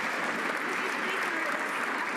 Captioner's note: some Applause